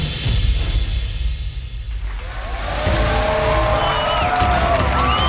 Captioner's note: cheering